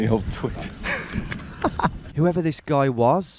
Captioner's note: laughs